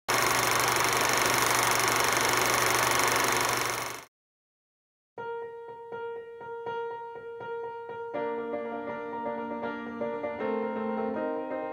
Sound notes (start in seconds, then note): 0.1 film reel flickers